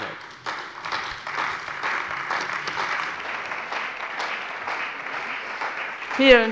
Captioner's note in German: Beifall bei der CDU und dem BÜNDNIS 90/DIE GRÜNEN